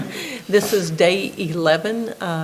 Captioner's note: everybody laughing